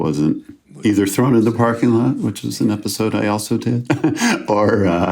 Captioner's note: chuckles